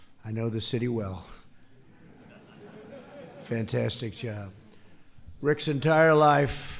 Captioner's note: laughter